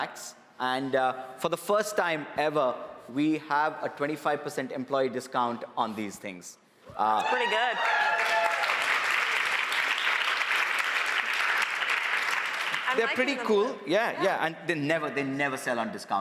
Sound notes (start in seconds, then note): 7.1 cheers and applause